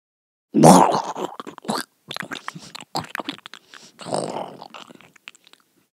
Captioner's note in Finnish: hirviön syömisen ääniä